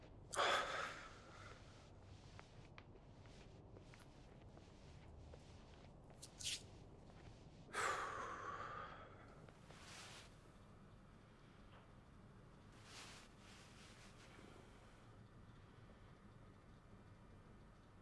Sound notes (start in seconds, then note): 0.2 man sighs deeply; 7.8 sighs deeply